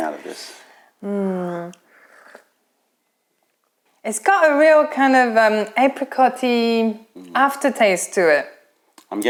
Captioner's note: sips tea